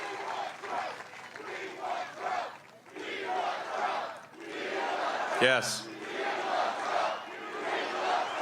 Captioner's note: cheering; applause